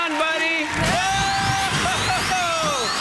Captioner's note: cheering